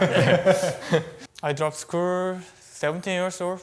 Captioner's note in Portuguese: risos